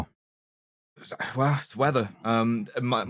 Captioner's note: some kinda mouth sound